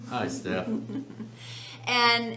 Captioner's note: laughs